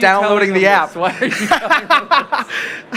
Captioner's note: laughter